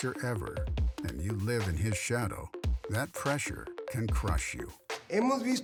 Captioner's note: Chavez Sr. speaks Spanish